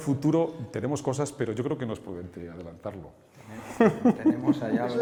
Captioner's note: laughs